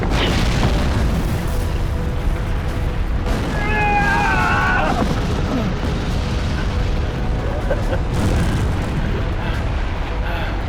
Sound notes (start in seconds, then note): 3.4 yelling/Groans; 7.4 laughing; 10.2 heavily Breathing